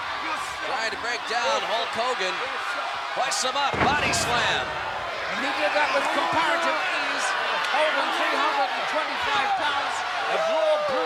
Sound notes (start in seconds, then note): 3.8 body thudding